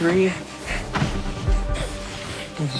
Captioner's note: Lucas panting rapidly